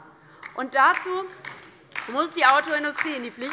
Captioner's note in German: Beifall bei der LINKEN